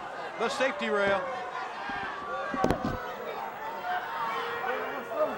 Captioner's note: crowd shouting